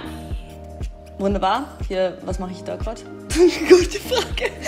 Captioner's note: laughing